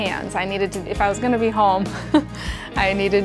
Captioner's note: chuckles